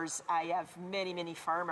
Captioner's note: speaking French